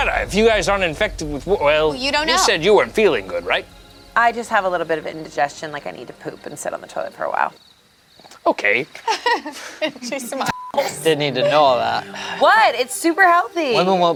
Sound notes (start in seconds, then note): 9.0 laughs; 10.4 beep